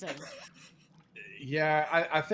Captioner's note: laughing